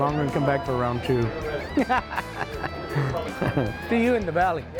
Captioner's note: laughs